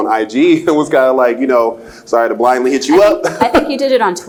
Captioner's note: laughs